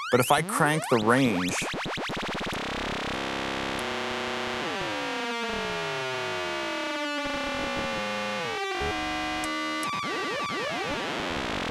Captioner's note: digital tones